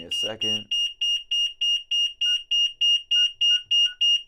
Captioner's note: beeps